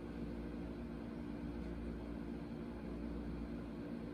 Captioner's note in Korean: 제습기 돌아가는 소리